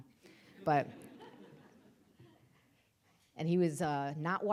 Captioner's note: audience laughing